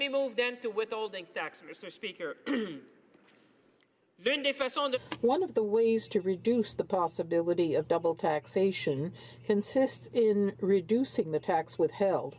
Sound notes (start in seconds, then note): 9.0 speaking in french